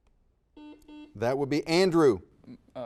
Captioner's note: buzzer dings